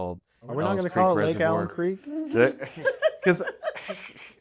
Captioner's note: laughter